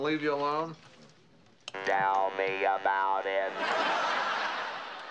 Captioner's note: voice synthesizer